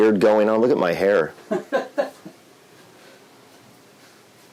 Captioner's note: laughs